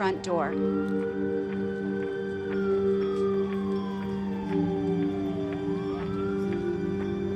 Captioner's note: siren blaring